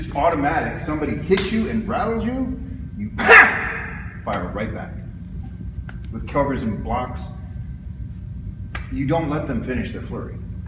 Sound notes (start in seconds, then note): 1.1 smack; 3.2 loud sharp exhale